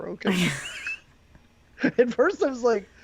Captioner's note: laughing